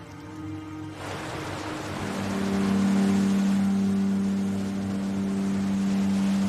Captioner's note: gentle music; waves crashing